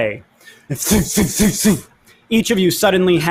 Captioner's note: imitates explosions